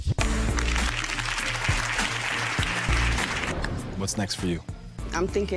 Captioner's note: audience applauding